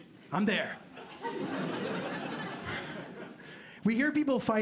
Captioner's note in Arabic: ضحك